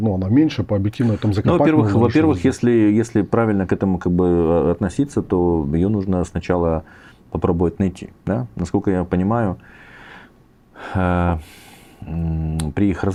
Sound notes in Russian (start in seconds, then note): 10.8 вздыхает; 11.3 тяжело вздыхает